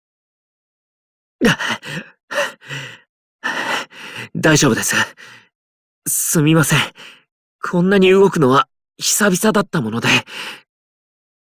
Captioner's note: panting